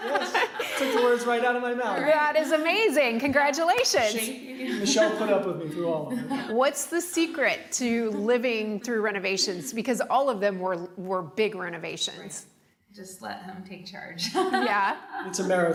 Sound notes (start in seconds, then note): 0.0 laughing; 14.3 laughing